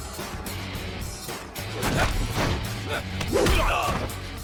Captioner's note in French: grognements de gangsters